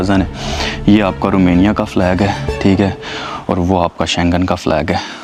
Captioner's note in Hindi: नाक से की जाने वाली आवाज़